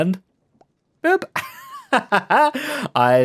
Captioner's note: laughs